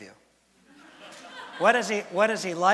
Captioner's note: laughter from audience